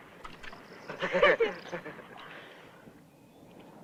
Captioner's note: laughs